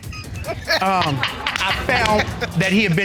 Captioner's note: laughing